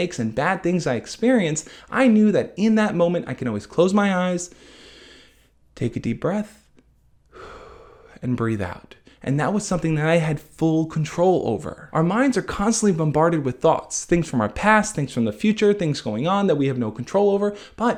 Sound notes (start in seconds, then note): 4.5 breathes deep; 7.3 breathes out